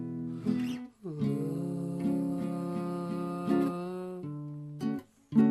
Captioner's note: vocalizing